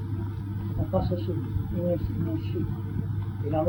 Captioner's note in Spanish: Pronuncia algunas frases en algún idioma antiguo